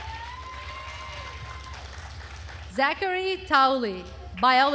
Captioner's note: attendees cheering and applauding